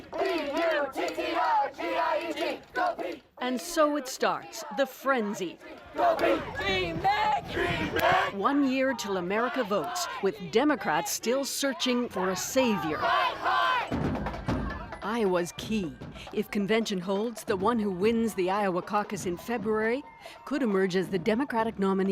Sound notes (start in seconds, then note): 0.2 chanting; 7.9 chanting